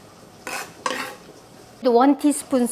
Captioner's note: knife scraping